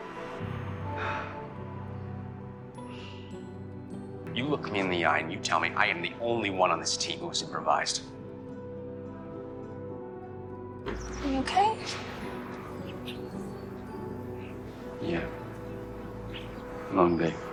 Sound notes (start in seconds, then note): 0.9 Philip exhales